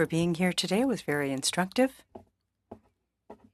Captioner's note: speaking French